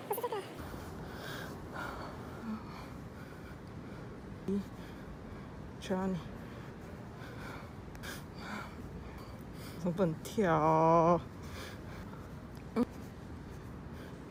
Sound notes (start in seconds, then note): 6.7 click